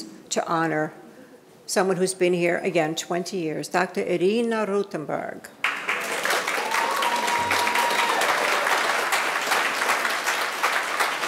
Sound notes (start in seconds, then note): 5.6 audience applauding